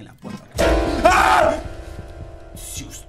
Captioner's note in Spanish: Grita